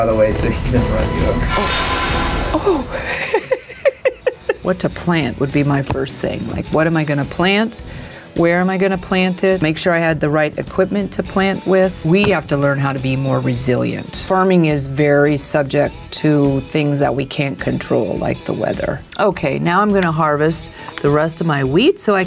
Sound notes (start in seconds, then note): 2.3 dramatic music; 2.6 laughs